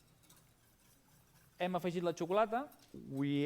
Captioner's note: non-english speech